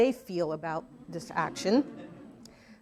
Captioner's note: audience laughing